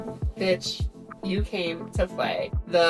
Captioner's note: none